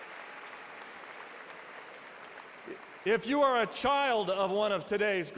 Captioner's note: applause